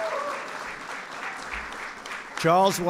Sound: applause

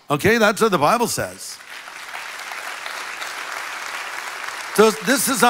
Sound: congregation applauds

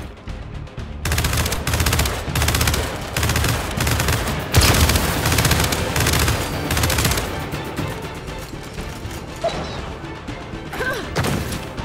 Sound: gunfire

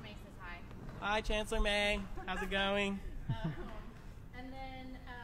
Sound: laughter

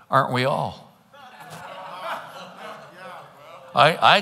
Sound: congregants laughing

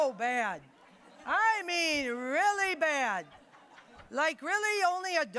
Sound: audience laughing

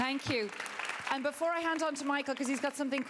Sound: applause

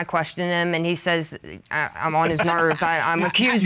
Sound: Judge Keith laughing

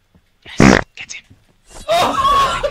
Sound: fart; whispers; howls with laughter at his failure

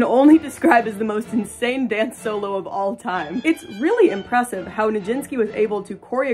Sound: laughing

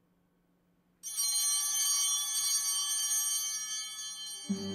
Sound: altar bell ringing

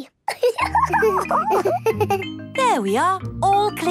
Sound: giggles

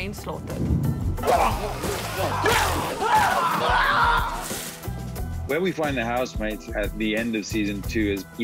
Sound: screams

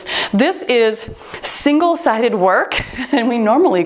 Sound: laughs

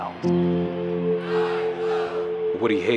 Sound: crowd: o-h; crowd: i-o!

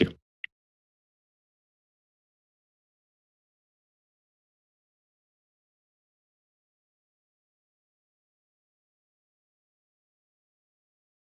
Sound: silence

